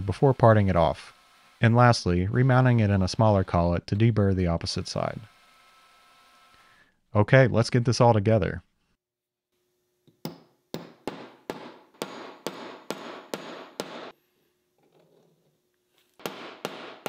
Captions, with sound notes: before parting it off, and lastly, remounting it in a smaller collet to deburr the opposite side. Okay, let's get this all together. (metal banging)